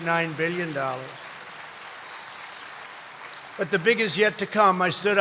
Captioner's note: applause